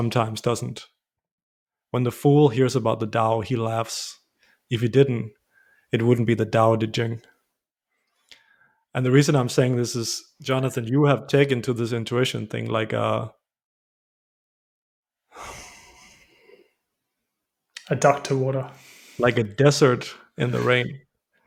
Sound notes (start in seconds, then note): 15.3 sigh; 15.4 laughter